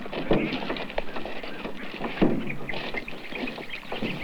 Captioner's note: tap sounds from canoe